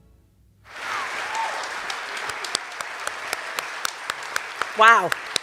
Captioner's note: cheers and applause